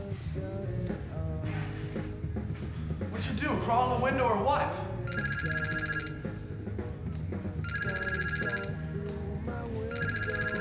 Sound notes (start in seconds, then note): 5.4 cell phone ringing